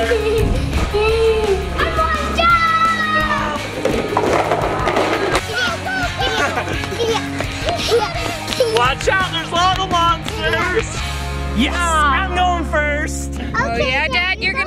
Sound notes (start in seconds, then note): 0.0 girl laughing; 3.8 crashing onto the ground; 6.5 child imitating horse sounds